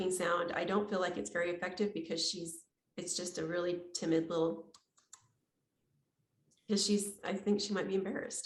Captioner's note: makes clicking sound